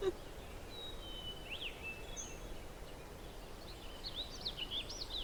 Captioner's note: birds chirping; all laughing